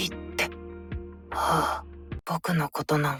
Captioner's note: sigh